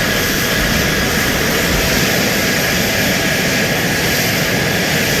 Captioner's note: jet plane engines buzzing